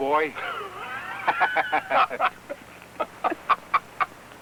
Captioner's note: laughter